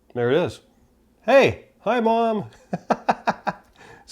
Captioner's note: laughs